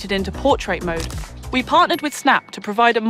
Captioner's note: camera shuttles